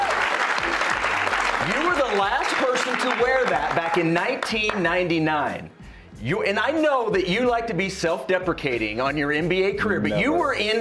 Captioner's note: cheers and applause